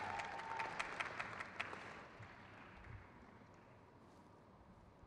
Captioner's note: crowd claps